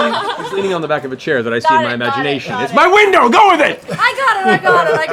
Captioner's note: laughs; shouts